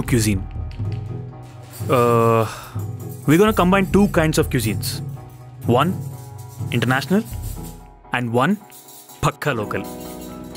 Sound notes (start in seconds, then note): none